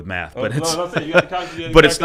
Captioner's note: laughing